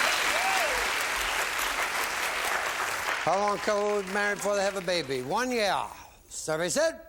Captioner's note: applause